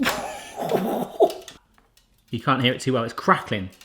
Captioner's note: metal creaks; surprised gasps